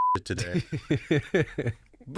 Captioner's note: both laughing